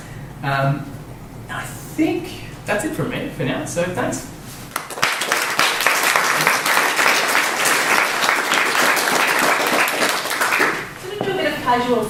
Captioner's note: applause